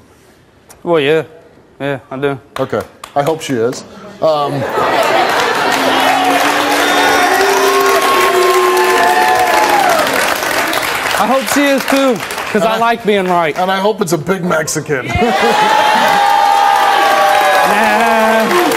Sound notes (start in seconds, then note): 4.7 audience laughs, applause; 15.0 audience laughs, cheers